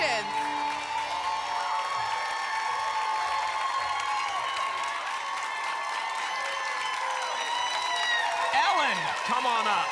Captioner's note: applause and cheering